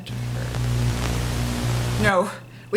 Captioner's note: Static